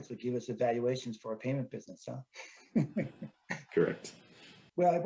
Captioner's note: chuckles